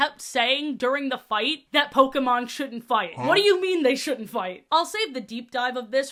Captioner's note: huh sfx